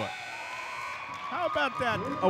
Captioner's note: buzzer sounds